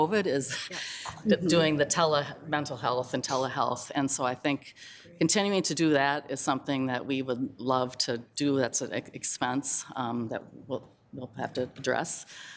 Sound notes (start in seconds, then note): none